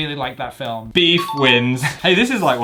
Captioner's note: bell chimes